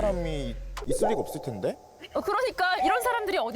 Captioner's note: confused sound effect